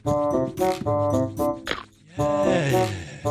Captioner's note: cracking Sound